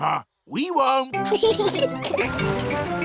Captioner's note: both giggling